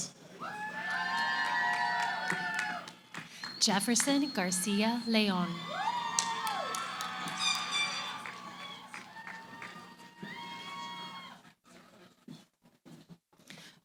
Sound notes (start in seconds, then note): 0.4 cheering; 5.3 cheering, applause